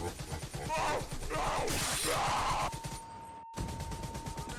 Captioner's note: agonizing screams